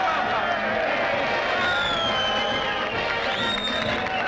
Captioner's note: cheers and applause